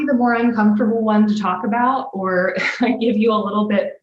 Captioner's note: chuckles